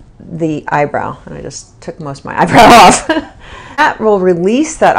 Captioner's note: chuckles